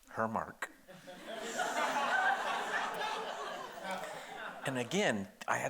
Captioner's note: audience laughing